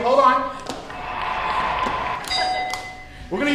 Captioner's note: cheering